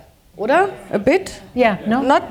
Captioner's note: speaking german